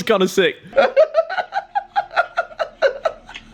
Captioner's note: laughing